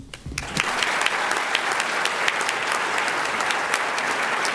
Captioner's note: applause